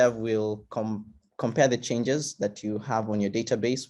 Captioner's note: none